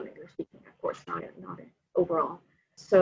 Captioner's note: audio blurs